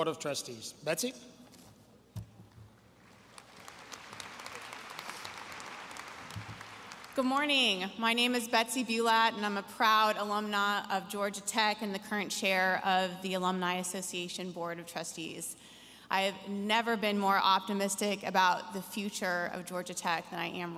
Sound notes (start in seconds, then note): 4.5 applause